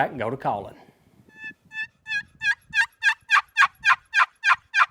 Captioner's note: turkey calling